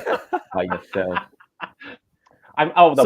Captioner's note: laughter